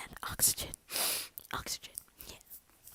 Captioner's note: sniffs